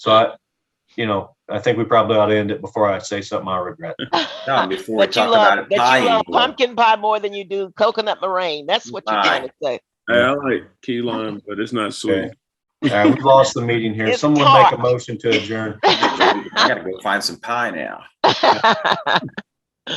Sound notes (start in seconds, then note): 11.0 speaking faintly; 17.0 speaking faintly